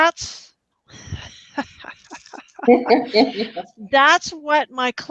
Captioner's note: laughter